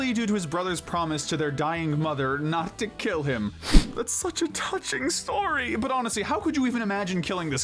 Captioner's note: sniff